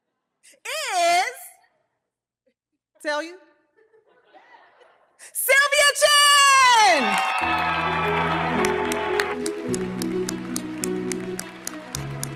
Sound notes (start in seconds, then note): 6.5 audience cheering; 6.9 audience applauding; 9.3 uplifting music